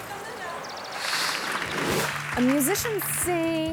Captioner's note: audience clapping